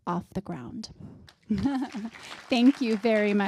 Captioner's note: applause